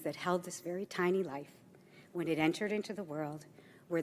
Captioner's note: none